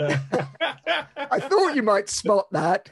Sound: men laughing

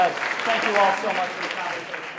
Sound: applause

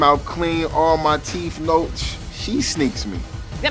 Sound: scoffs

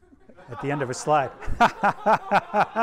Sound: everyone laughs

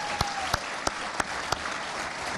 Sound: applause

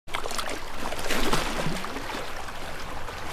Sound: water gurgling

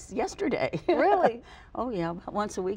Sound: Josie chuckles

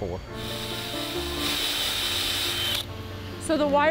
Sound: tool whirring

